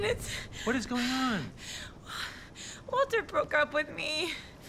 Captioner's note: breaths heavily